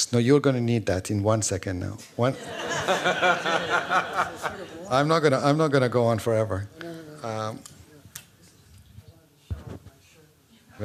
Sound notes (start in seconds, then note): 2.3 laughter